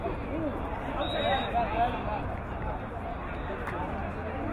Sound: whistle blowing

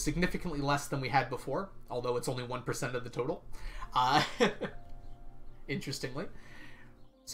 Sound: laughs

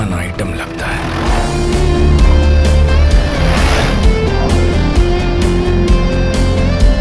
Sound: jeep engine revving

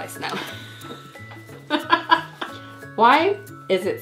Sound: laughing

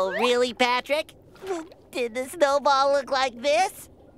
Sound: chuckles

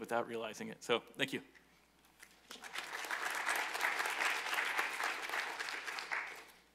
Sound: applause

